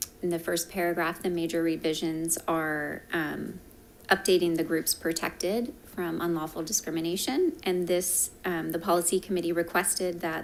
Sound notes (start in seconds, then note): none